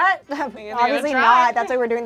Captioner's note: overlapping chattering